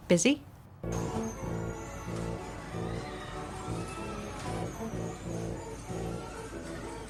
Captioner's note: playful music; people yelling